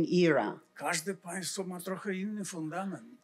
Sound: foreign language

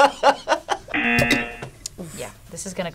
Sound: laughs; buzzer rings

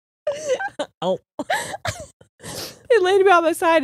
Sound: both laughing

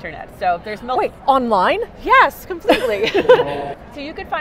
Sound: laughing

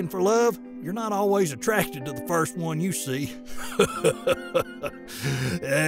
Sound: laughs

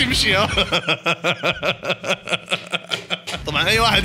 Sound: laughter

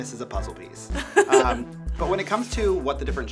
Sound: laughs

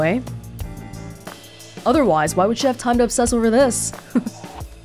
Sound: chuckles

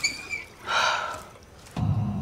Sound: sigh

